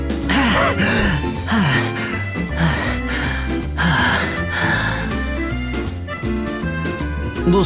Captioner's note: out of breath